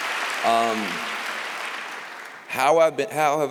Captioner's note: applause